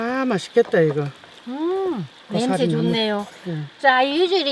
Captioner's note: speaking foreign language